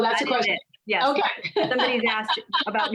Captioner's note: laughter